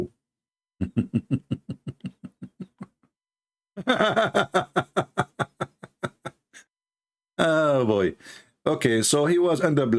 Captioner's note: Ketawa